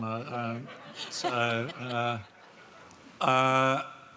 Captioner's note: audience laughs